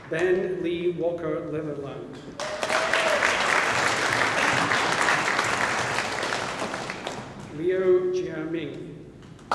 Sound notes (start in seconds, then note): 2.4 audience applauding